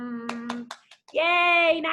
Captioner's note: clapping